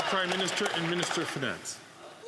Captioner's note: some Applause